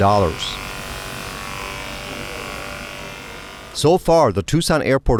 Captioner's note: pressure washer rumbling